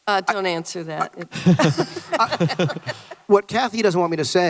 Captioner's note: Kennedy et al laugh